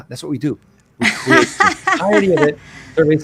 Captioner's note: laughing